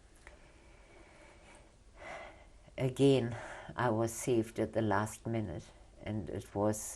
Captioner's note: sighs